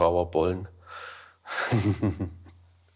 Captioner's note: he laughs